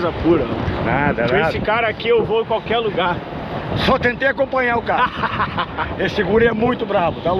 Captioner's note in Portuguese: risadas